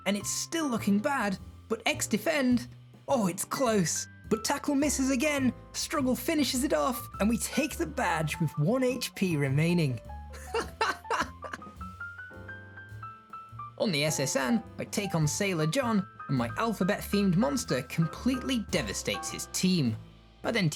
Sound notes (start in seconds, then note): 10.4 foolish Laughter